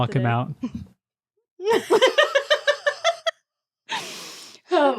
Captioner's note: laughing